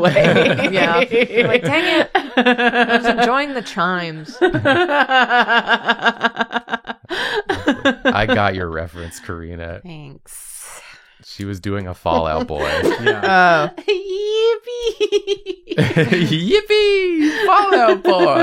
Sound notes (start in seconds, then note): 0.0 laughter; 4.1 laughs; 15.4 laughs